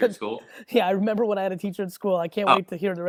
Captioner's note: laughs